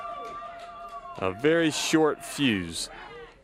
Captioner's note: crowd cheering